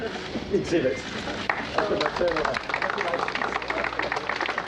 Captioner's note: crowd applauding